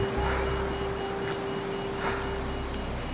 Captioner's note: Ian pants